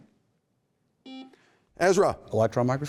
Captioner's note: buzzer beeping